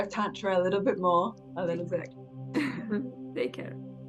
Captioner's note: chuckles